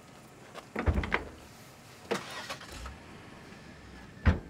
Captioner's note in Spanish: puerta del auto abre y cierra